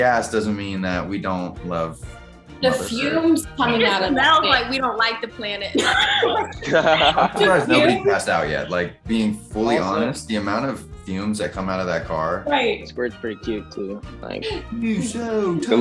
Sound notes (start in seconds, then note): 5.7 all laughing